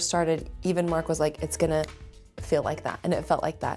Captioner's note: snaps fingers